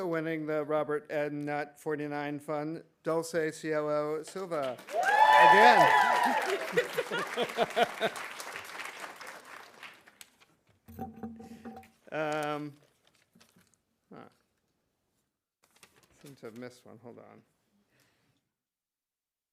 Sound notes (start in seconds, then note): 6.9 audience applauding; 6.9 audience cheering; 9.0 laughing